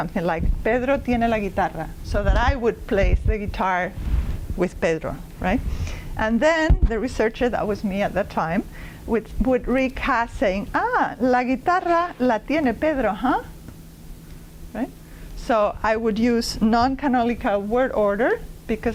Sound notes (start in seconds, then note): 0.6 non-english speech; 12.4 non-english speech